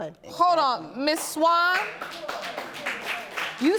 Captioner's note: audience applauding